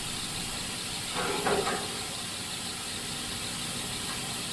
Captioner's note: metal clangs